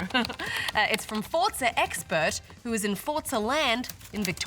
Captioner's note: chuckles